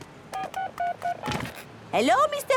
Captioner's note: dial tones beeping